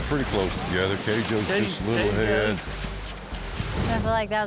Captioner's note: chattering